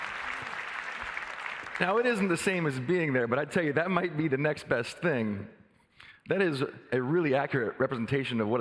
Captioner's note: applause